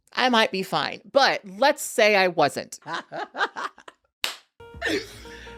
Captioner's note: laughs